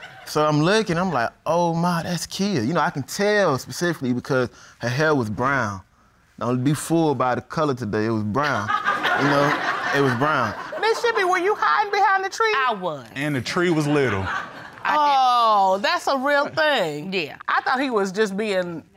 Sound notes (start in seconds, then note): 8.5 audience laughs